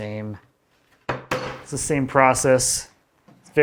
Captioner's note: woods smacking